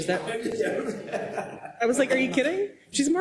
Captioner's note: laugh